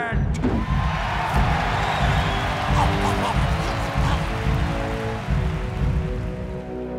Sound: audience screaming and cheering

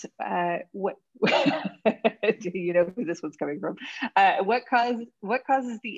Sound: laughs

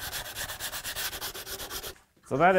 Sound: sandpaper scratching

